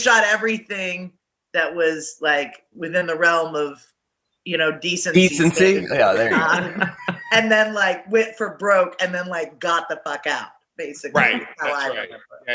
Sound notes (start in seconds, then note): 5.8 actors laughing